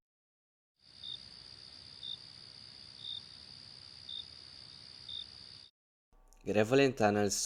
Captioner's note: night ambience